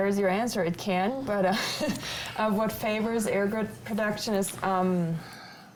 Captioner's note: laughs